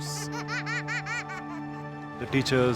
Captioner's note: giggles